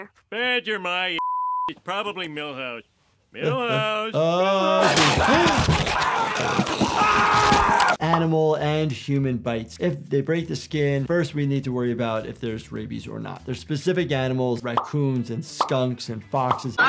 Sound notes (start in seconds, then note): 1.2 beep; 4.4 screaming